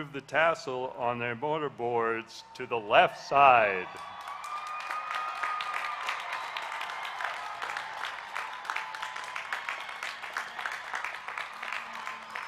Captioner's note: applause